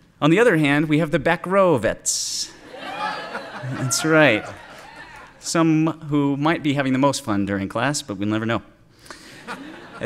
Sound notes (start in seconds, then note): 2.6 cheers and laughter